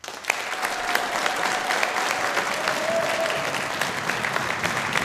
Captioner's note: audience applauds and cheers